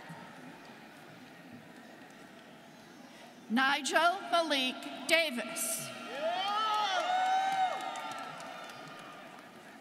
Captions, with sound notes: - Nigel Malik Davis. (students cheering)